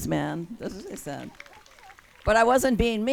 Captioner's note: audience claps and cheers